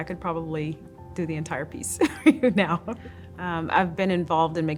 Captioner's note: laughs